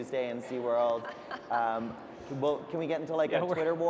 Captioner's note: laughter